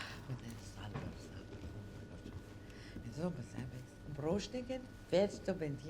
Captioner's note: woman speaking unknown foreign language